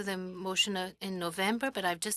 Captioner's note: speaking French